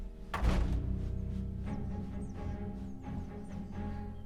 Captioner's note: door slams; door opens